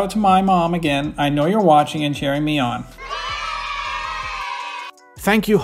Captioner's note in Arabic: أطفال يهتفون